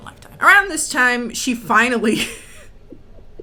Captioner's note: laughs